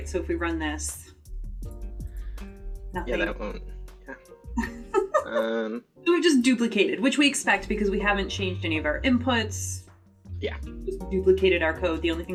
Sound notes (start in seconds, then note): 4.6 laughs